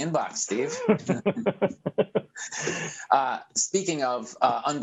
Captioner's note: laughs